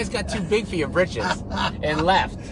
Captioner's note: laughing